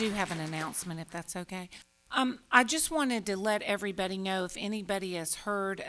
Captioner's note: applause